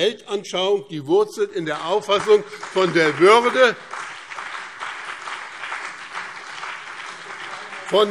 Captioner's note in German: Beifall BÜNDNIS 90/DIE GRÜNEN und CDU